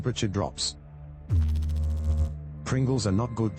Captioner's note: electrical noise